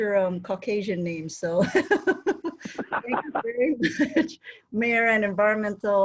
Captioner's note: laughing